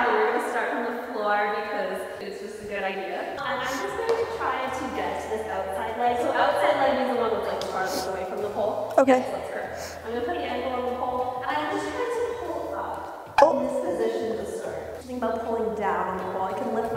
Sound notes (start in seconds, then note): 13.3 bubble popping